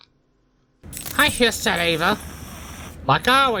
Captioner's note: Caprice hisses